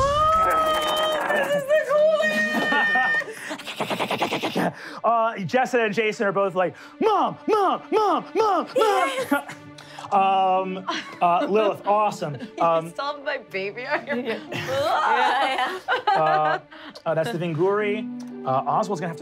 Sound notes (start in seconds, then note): 3.4 skittering; 15.3 gasps; 16.5 giggling